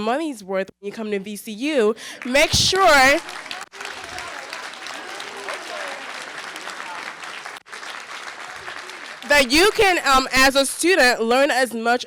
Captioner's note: applause